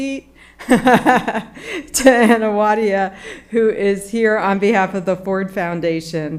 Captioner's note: laughs